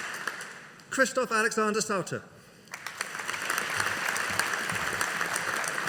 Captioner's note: audience applauding